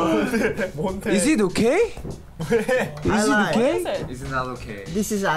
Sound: exclaiming; laughs

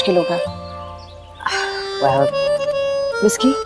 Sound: sighs

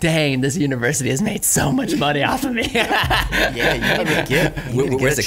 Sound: laughs

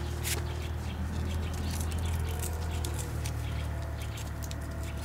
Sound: birds chirping, distant street noise

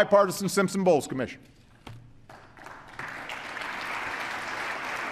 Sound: applause

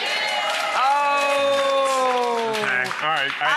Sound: clapping

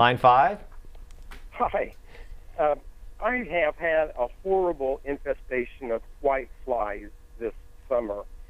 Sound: laughing

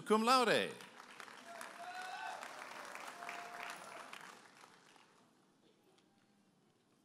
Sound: audience applauding and cheering

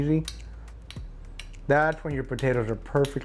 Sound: utensil clinks

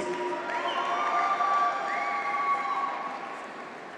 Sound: graduates cheer

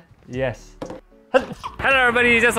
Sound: sneeze

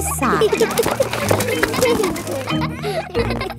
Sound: kids giggling

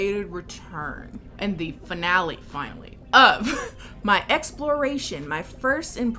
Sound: laughs

